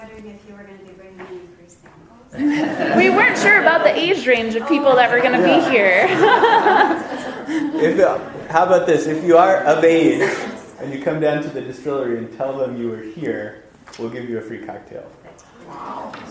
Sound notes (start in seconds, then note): 6.0 audience laughter